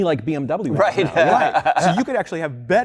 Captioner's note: laughter